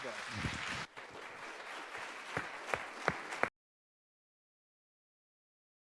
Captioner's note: audience applauding